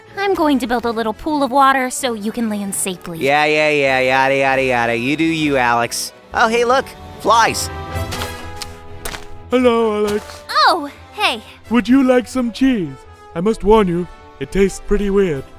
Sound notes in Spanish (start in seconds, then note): 4.2 empieza a balbucear